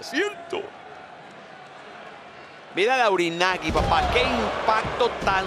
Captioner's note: applause